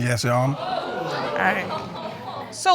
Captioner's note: audience exclaiming